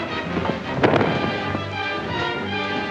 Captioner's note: sounds of scuffling; suspenseful music; thump; suspenseful music